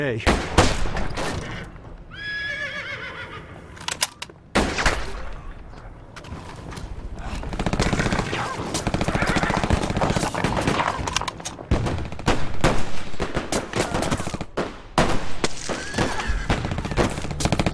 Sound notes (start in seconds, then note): 0.2 gunshots; 4.5 gunshot; 11.7 gunshots